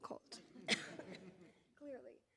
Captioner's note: audience laughing; coughs